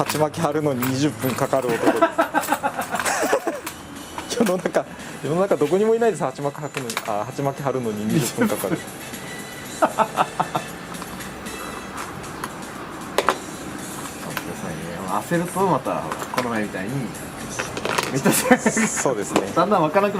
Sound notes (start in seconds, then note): 1.6 laughs; 9.5 laughs